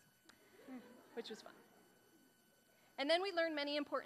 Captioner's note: audience laughing